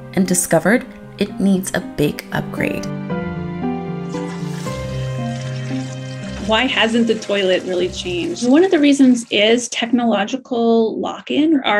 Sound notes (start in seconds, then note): 4.0 toilet flushes